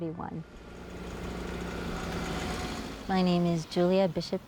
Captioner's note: motor humming